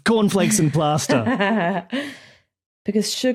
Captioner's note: chuckles snidely